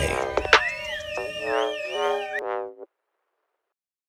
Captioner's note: people cheering